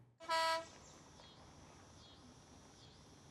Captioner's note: bocinazo; insectos chirrían